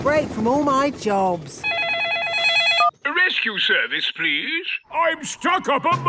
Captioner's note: phone ringing